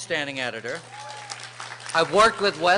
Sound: applause

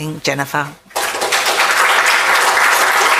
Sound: audience applauds

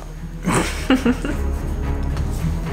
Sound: chuckles

